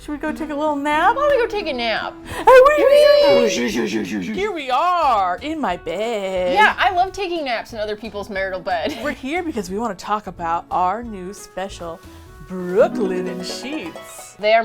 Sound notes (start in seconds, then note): 2.0 whimsical transition sounds